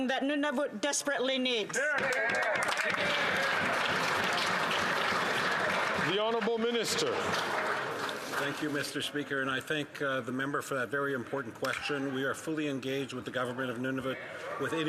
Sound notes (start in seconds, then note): 5.5 some Applause